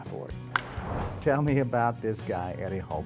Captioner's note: bat hitting ball